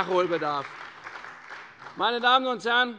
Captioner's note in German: Beifall bei der CDU und dem BÜNDNIS 90/DIE GRÜNEN